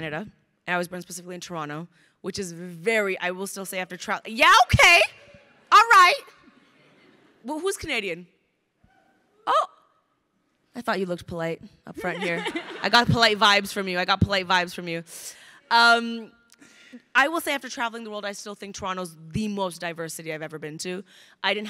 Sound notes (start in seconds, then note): 12.0 crowd laughing